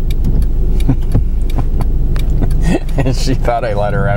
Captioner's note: laughs